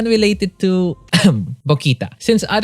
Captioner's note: coughs